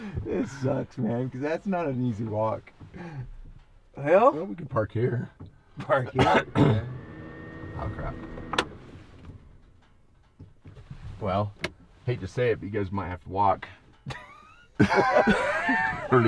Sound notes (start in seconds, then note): 6.5 fan sound; 14.1 laughing